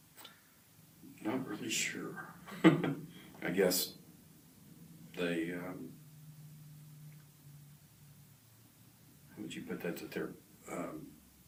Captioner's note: laughs to self